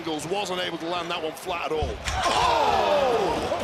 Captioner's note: excited screams